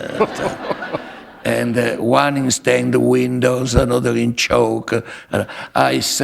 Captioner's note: laughter